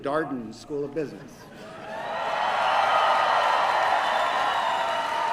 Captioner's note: cheering